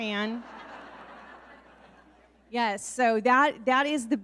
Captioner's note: audience laughing